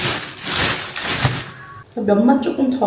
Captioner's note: rustle rustle